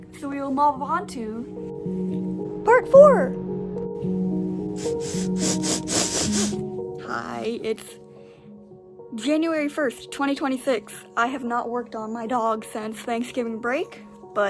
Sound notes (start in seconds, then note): 4.7 sniffing